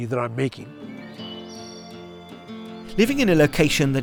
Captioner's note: birds chirping